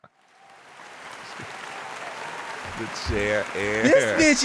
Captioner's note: audience applauding